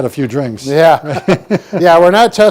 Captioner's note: laughs